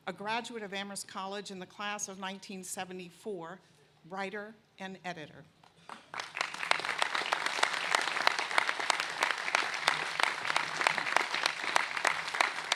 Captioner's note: applause